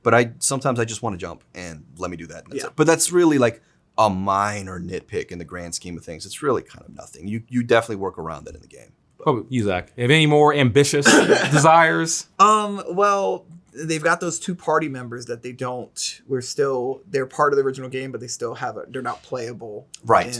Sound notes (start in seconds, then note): 11.1 Zack laughs